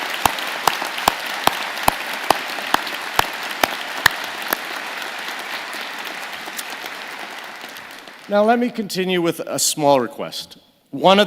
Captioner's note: applause